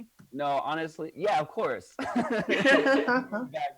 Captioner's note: laughs